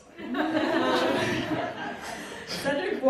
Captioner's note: audience laughing